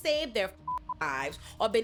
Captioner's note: beep